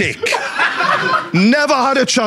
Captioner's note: audience laughs